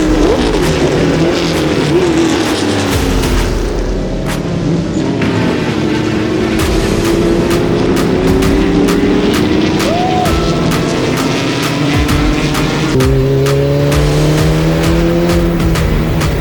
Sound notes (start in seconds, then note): 2.2 engine revving; 11.5 upbeat music